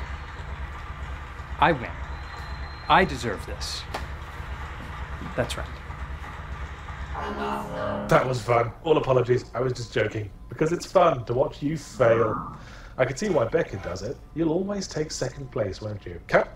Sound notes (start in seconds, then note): 8.2 voiceover